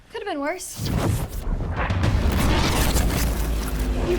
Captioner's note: whooshing, loud crackling